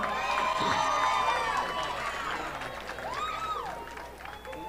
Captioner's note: audience applauding